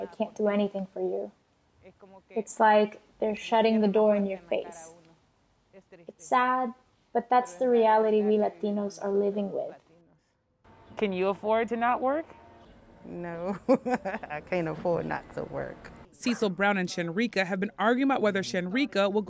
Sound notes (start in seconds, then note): 13.5 laughter